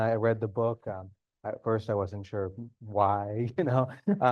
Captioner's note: chuckles